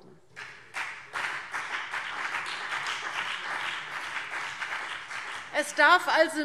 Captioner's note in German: Beifall BÜNDNIS 90/DIE GRÜNEN